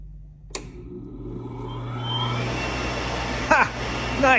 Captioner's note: switch clicks, blower whirrs